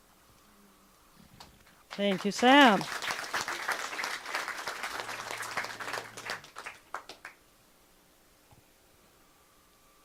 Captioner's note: clapping